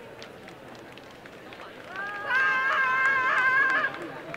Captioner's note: cheering and applause